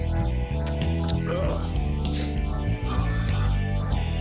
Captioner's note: groans